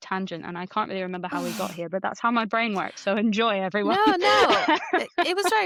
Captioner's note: laughs